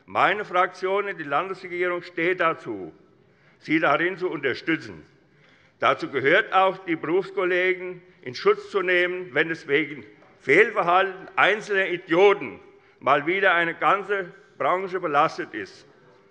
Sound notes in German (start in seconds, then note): none